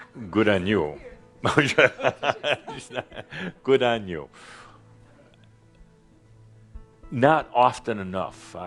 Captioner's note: Adamus chuckles